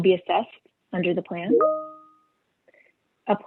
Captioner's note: chimes